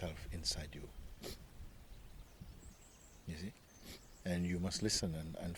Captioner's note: friend sniffling